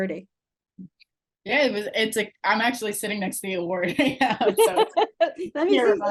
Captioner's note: laughing